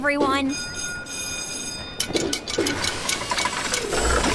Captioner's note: bell ringing